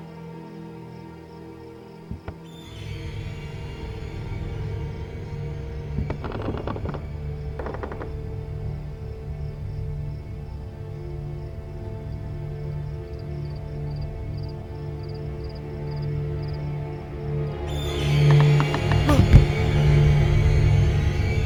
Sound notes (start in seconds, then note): 7.5 floorboards creaking; 10.3 soft tense orchestral music; 17.3 intense ominous music